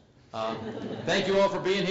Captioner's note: laugh